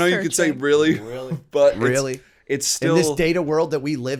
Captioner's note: chuckle